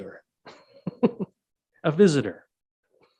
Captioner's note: laughing